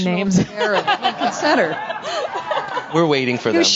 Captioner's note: all laughing